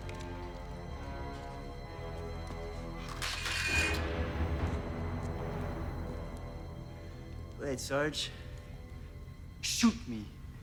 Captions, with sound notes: (gun clattering) - All right, Sarge, shoot me.